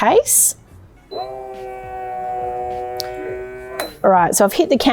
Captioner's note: sealer buzzing